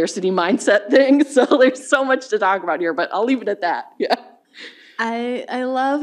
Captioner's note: chuckles